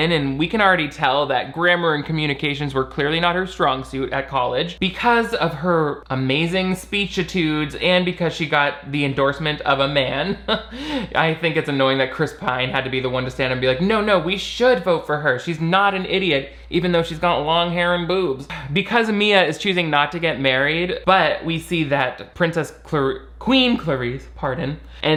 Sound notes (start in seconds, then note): 10.2 laughs